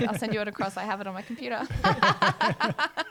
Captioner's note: laughs